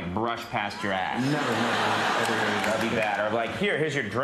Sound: laughter

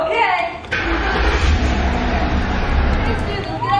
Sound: engine roars

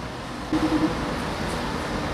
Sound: phone ringing

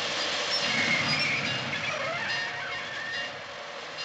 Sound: brakes Squealing

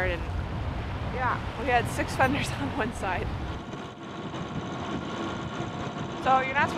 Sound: laughs

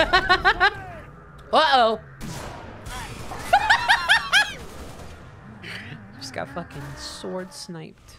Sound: laughing

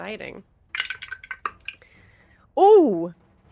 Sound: dice clatter

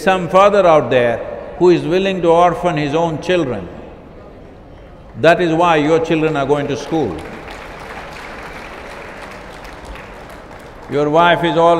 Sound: applause

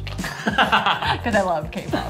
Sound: laughs

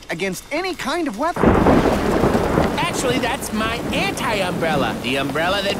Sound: thunder clap

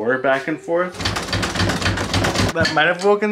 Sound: door making rattling noises

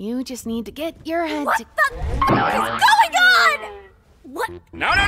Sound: wacky bleep

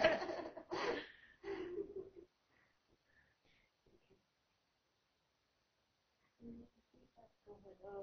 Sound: laughter

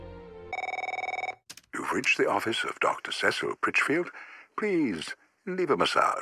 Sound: phone ringing

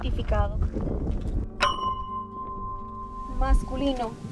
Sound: ding

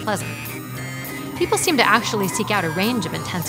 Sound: wind rushing

